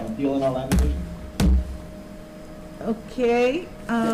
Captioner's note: banging